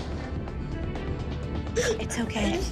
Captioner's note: crying